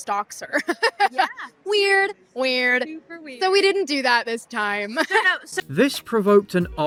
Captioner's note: laughs